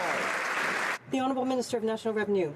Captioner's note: some Applause